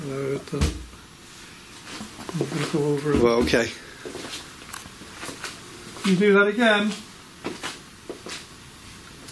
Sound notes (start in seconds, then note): 1.0 loud thumping; 3.1 loud thumping